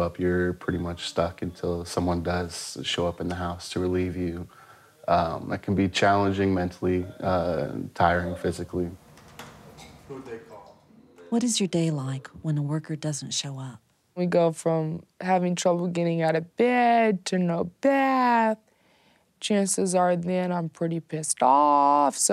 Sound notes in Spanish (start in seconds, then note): 9.7 Voz de fondo